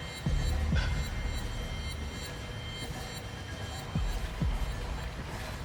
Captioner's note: beeping; suspenseful music